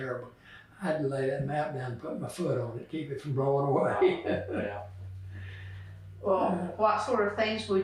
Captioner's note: laughs